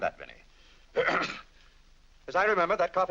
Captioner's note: clears throat